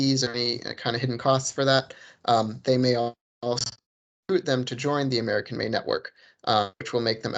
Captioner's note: distorted audio